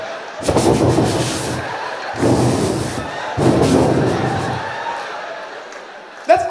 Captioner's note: breathing out noisily